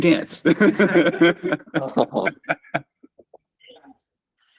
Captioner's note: laughter